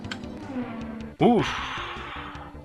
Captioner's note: relief Exhalation